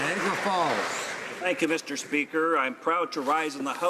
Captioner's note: applause